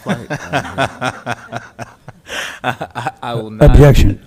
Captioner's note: audience laughing